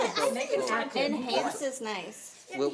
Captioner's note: chattering